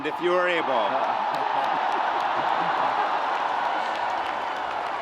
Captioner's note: audience applauding